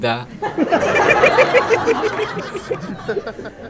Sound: students laughing

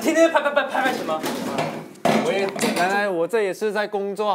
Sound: shhh

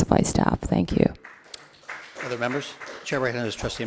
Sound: group applauds

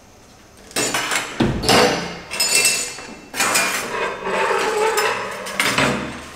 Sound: very loud metal noises

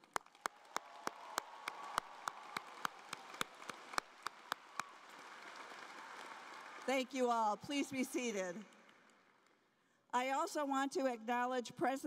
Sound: applause

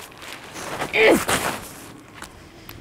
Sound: grunting

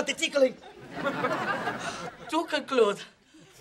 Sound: sighing

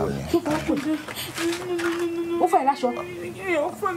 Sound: speaking in foreign language; Tife sobbing; women speaking in foreign language

